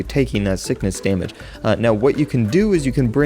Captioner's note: inhale